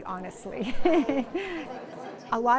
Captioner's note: laughs